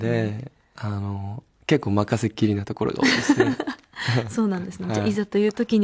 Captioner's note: laughs